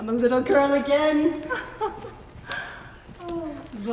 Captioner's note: laughs